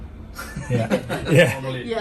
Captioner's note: all laughing